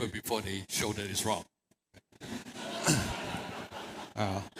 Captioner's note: laughter